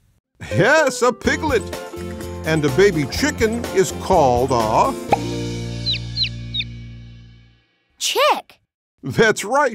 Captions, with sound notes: Yes, a piglet. And a baby chicken is called a...? [chirping] Chick. That's right.